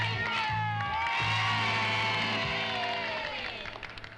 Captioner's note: group cheers